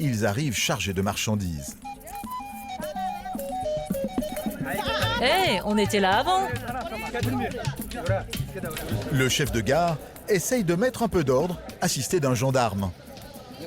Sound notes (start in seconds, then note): 4.9 woman speaking foreign language